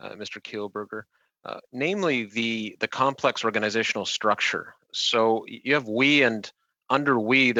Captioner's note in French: voix de l'interprète